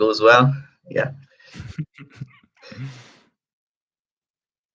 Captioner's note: laughing